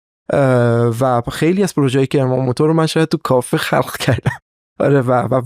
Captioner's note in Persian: خنده